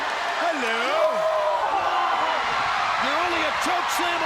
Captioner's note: Big Show shouts